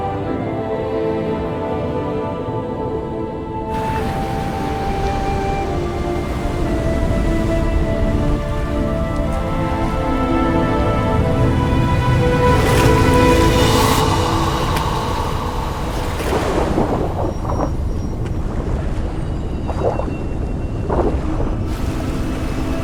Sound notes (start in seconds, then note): 0.3 soft dramatic music continues; 3.7 waves crashing; 12.7 Dayne gasping; 12.7 water splashing; 15.4 water burbling; 17.3 eerie music; 20.8 water splashing